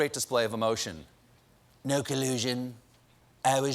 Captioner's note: as trump, flat